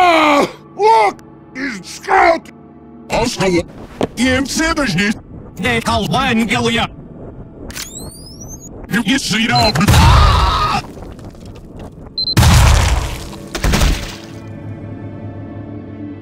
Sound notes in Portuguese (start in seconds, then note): 3.0 Sons do Distorcido; 12.3 Explosão!